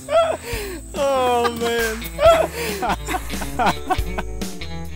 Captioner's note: laughing